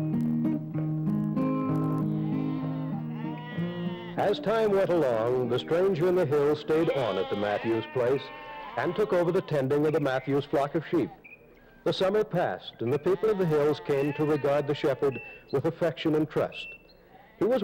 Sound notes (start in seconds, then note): 1.9 sheep baaa-ing